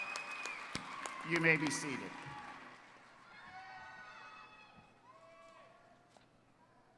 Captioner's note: applause